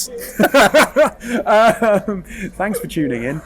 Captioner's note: laughs